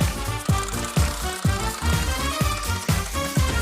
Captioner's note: clicking